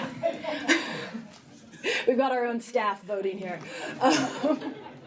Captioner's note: laughter